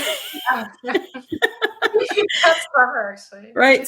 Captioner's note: both laugh